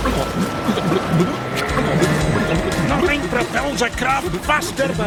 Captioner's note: gurgling; splashing